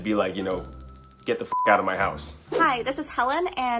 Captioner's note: beep